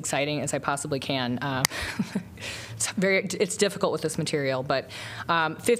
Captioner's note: laughter